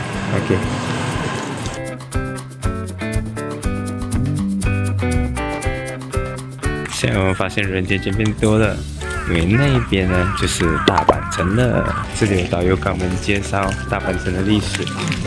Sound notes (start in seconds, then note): 8.8 crow cries